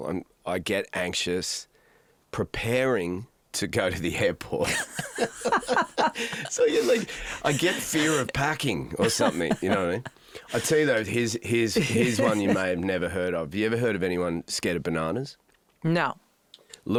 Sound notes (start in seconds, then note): 4.6 both laugh